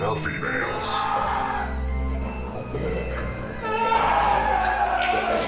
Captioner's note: victim screaming